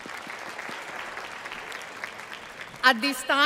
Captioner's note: applause